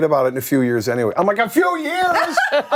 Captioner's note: laughter